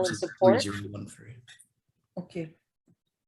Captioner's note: man talking